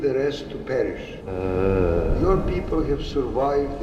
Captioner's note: man groans